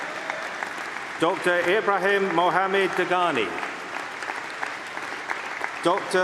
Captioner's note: applause; applause